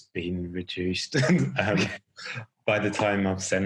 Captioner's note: laughing